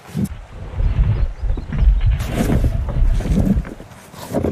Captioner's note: rock crashing sounds